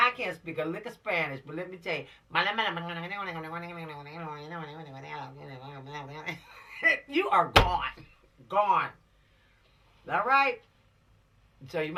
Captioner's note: speaking Spanish language